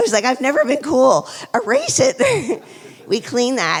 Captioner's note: laughs